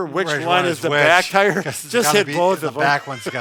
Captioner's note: laughing